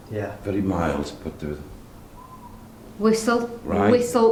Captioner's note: whistling sound